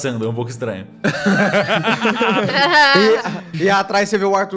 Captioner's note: everyone laughs